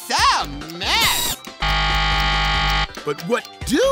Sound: buzzer ringing

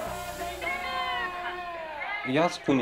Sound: people shouting in foreign language

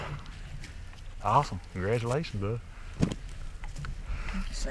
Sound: thud

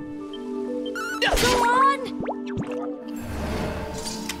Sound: combat sounds

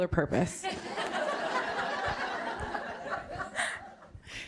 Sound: laughter

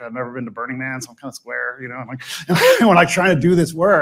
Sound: laughs

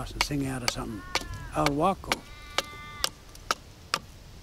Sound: crow

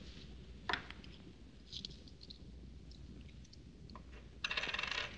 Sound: coin Clatters On Table; coins Clattering

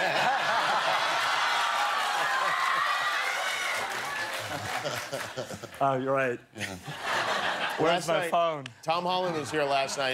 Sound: laughter

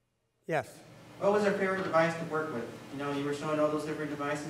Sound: voiceover

